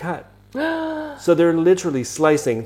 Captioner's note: gasps